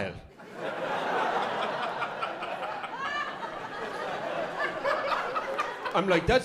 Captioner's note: laughter